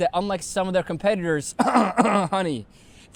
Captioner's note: cough